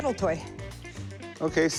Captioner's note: none